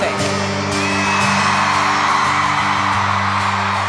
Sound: cheers and applause

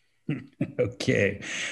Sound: laughs

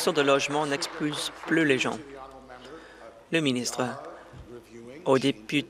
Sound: applause

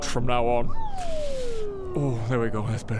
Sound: deflating whistle

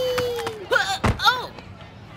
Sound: groans

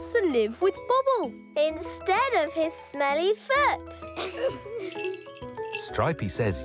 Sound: laughing

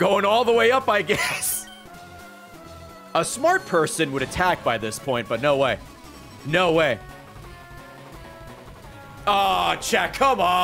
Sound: laughs

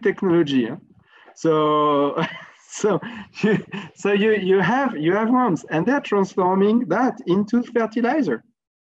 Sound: laugh

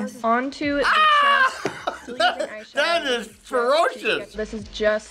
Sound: laughs

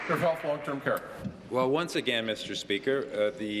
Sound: applause

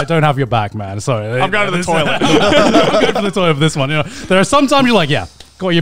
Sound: group chattering

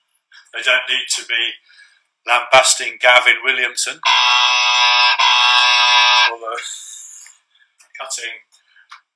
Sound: claxon sounds

